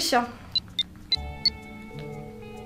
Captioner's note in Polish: dźwięk klikania